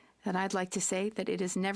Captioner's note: speaking French